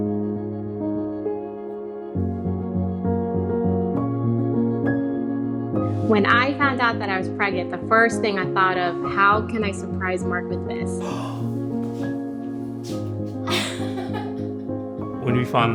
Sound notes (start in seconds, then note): 13.4 laughter